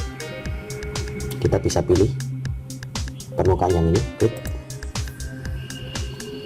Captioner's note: click